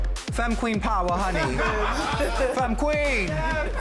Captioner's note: laughter